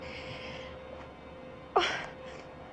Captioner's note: sobs